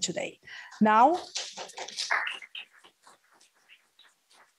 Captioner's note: applause